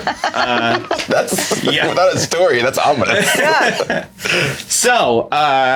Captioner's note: laughs